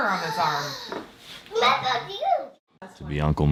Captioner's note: child gasping